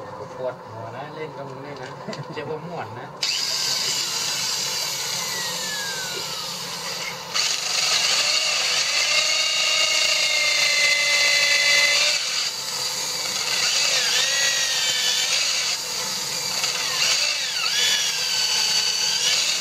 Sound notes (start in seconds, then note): 0.2 blacksmith speaking in Thai; 3.4 drill motor runs; 8.3 sound of drill penetrating bamboo